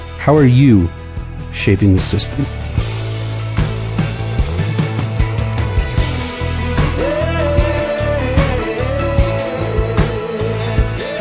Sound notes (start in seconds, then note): 2.8 bright music; 5.0 graphic clicking